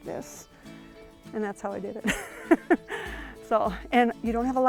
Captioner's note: laughs